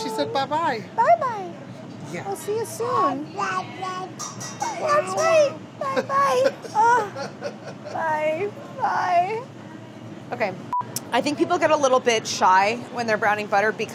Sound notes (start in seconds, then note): 4.6 baby babbling; 5.9 laughing